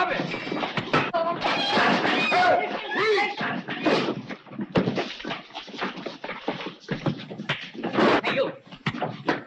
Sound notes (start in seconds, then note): 0.0 blows thudding; 7.4 blows thudding